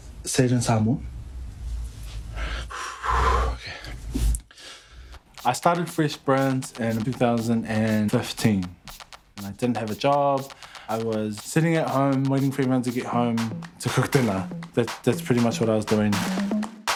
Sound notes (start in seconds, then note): 2.3 exhales; 4.8 inhales